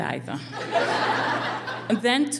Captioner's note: laughing